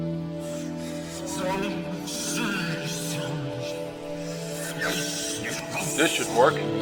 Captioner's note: ghost cries